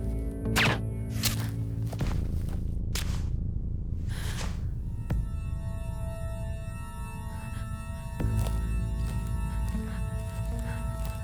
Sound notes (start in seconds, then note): 0.3 gun fires; 3.7 Quinn gasps; 7.2 Quinn breathes uneasily